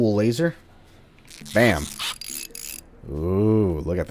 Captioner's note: tinkering noises